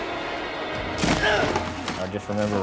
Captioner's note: dramatic music; grunts